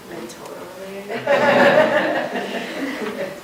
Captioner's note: laughter